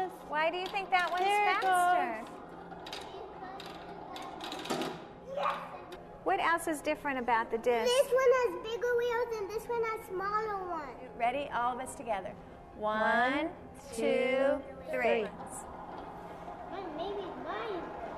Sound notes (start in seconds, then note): 2.0 discs clicking; 15.3 discs whirring; 16.9 kids mumbling